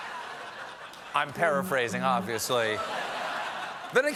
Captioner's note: laughter